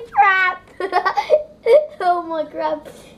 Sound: laughing

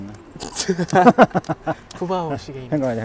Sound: laughing

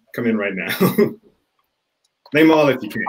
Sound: laughs

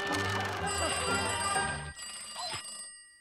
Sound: phone ringing

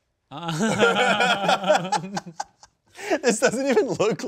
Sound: laugh

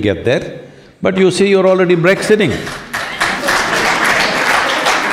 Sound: applause

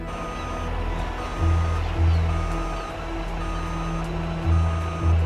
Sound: truck backing up

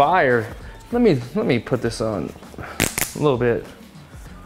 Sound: snaps pop

